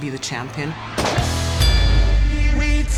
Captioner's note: bell dings; theme music playing